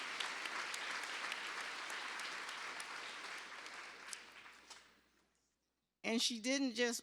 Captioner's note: cheers and applause